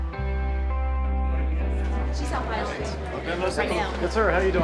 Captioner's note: murmuring